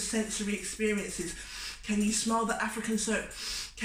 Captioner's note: sniffs; sniffs